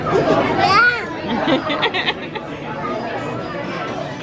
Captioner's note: laughter